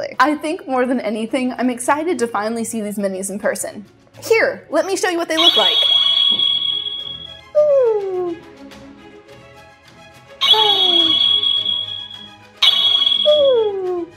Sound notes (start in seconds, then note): 5.3 wand sound; 10.4 wand sound